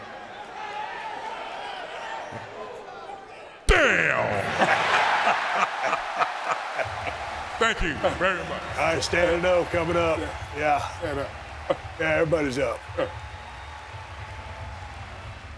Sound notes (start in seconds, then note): 3.7 both laughing; 5.0 crowd cheering